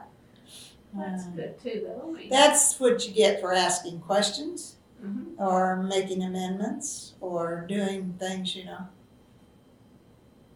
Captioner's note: laughs